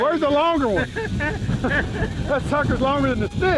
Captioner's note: laughing